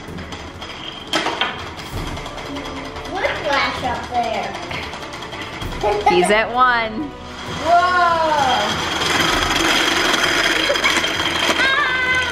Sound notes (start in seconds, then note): 0.0 rattling; 7.6 exclaims